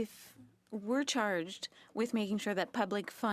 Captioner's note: speaking French